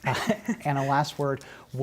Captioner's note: laughter